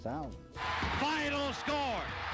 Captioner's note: cheering